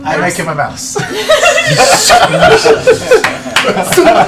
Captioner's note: laughter